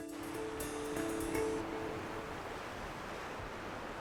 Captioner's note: waves crash